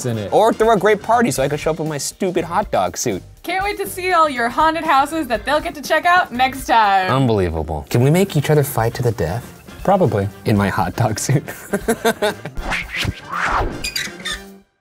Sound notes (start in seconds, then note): 11.4 laughs